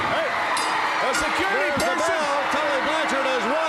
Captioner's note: bell ringing